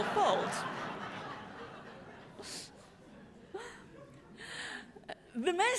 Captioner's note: laughter